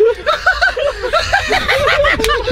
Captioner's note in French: rires